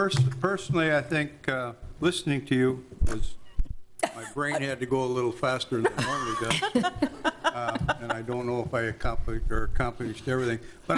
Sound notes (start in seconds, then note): 5.8 laughing